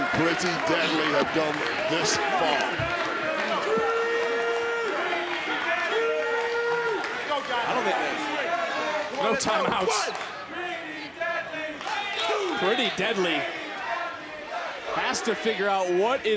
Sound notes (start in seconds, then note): 10.1 crowd chants "pretty deadly"